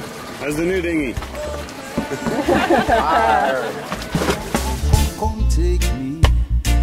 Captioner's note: laughing